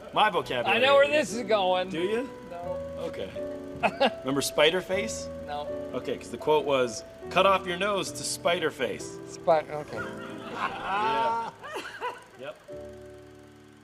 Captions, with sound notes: ...my vocabulary. - I know where this is going! - Do you? - No. - Okay. - ( LAUGHS ) - Remember spider face? - No. - Okay, cause the quote was, "Cut off your nose to spider face." - Spite--okay. - ( LAUGHING )